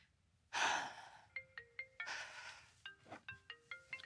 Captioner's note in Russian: телефонный звонок